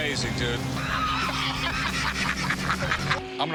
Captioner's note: laughter